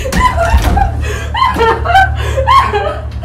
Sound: Lisa crying

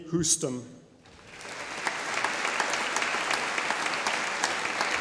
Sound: audience applauding

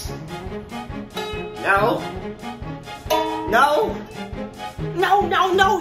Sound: plunk

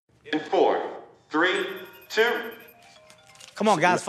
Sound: cellphone rings

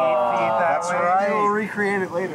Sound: loud “aww”ing

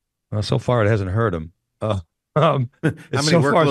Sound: laughs

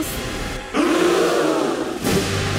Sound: gasping

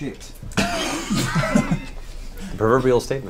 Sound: all laugh

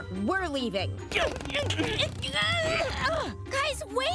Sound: groaning

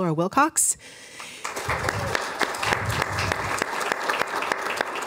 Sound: applause

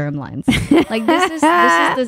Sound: laughing

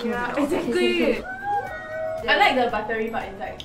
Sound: everybody agreeing in harmony

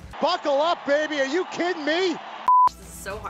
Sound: screen beeps

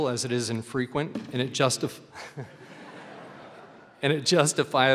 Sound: laughter

